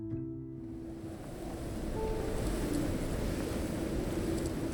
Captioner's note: wind whooshing